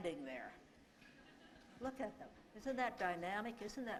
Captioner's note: laughter